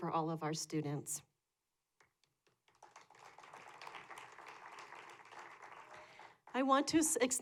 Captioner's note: applause